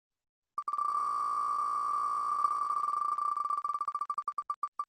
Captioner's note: ticking of wheel spinning